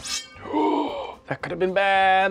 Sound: gasps

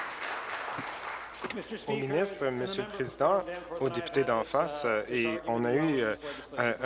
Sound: applause

